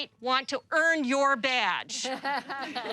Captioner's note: laughter